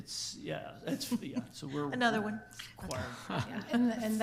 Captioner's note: chuckles